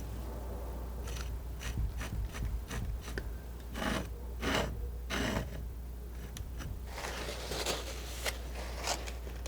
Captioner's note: scratching